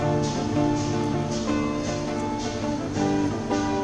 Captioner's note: street noise, in the background